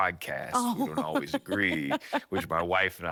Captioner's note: laughing